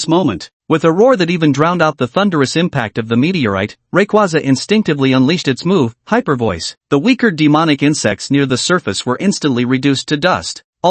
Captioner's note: hyper Voice